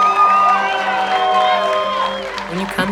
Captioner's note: fans cheering; players cheering